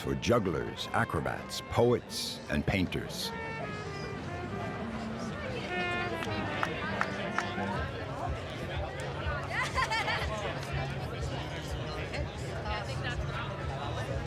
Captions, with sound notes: for jugglers, acrobats, poets and painters. (people chatting) (laughing)